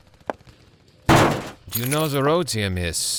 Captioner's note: keys fall on the ground